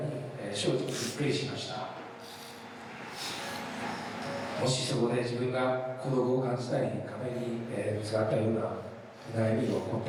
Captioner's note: speaking foreign language